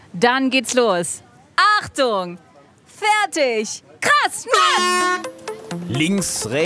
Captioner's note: Startsignal